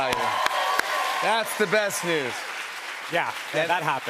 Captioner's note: cheers and applause